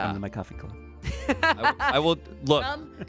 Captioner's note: laughs